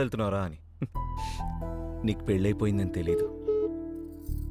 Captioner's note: chuckles